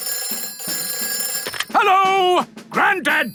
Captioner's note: telephone ringing